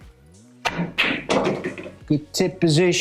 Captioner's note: balls clanging